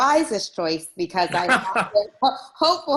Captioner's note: laughs